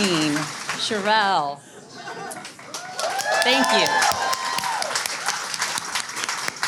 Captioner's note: audience cheers